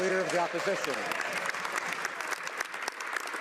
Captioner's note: speaking French